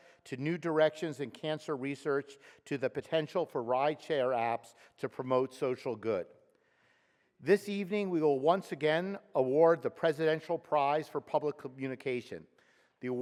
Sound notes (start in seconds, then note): none